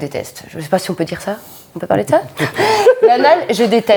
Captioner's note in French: rires